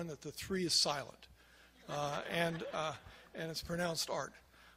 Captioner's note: crowd laughs